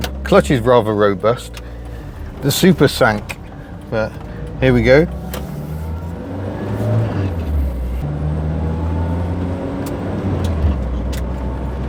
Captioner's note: driving sounds